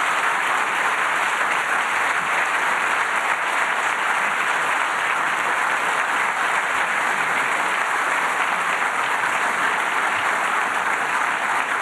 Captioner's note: applause